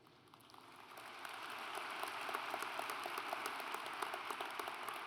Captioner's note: audience applauds